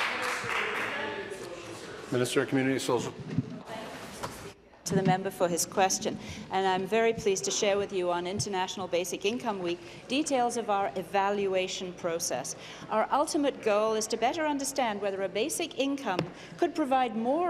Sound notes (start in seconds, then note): 0.0 applause